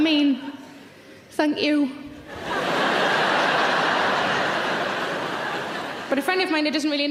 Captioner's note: audience laughing loudly